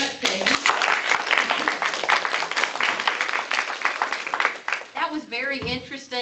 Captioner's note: applause